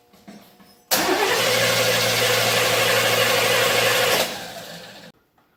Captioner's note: engine cranks